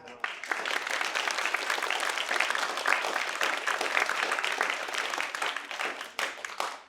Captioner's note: applause